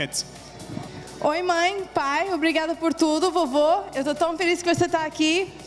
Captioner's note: speaking foreign language